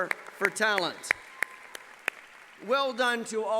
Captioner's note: applause